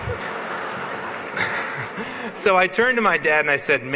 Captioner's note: laughs